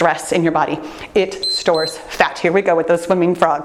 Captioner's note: timer beeps